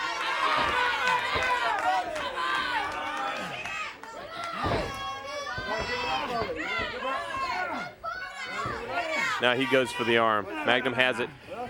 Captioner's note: crowd chatter